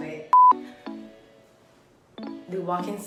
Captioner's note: beeps